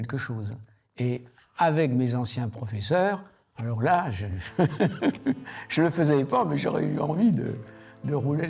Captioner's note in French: rires